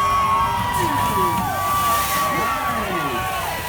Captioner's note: crowd cheers